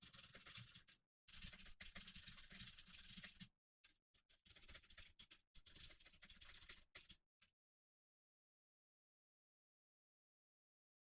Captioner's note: typing sounds